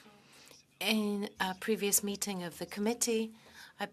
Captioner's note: speaking French